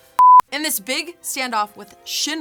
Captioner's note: beeping